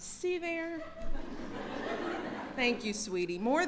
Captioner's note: laughter